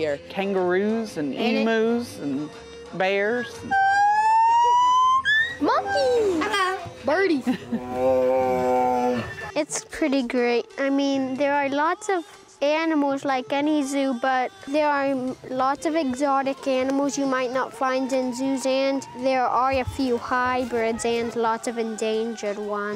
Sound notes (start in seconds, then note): 3.6 monkey squeals; 6.1 parrot squawks; 7.6 tiger groans